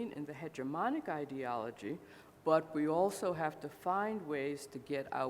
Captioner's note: none